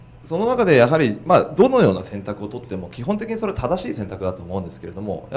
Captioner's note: speaking foreign language